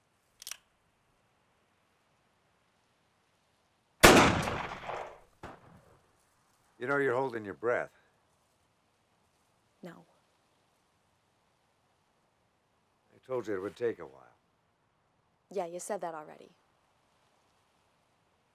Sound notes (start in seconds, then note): none